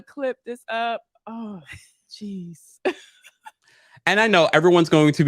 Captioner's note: Gizelle laughs